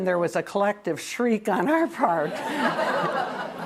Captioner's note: laughter